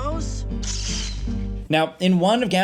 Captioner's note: crackling sound effect